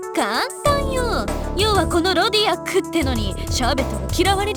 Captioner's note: none